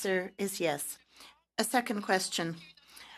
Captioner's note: speaking French